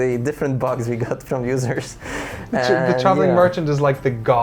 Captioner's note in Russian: хихикает